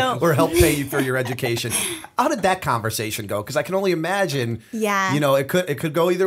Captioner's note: chuckle